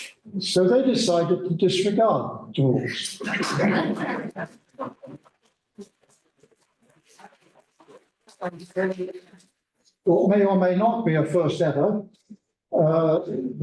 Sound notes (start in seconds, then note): 3.2 laughter